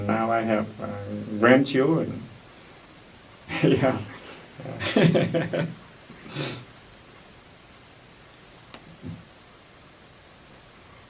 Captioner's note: laughs